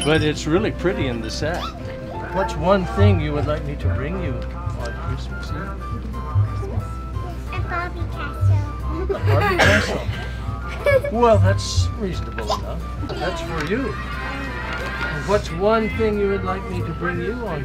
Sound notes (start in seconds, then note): 0.0 bell jingles; 6.1 mommy whispers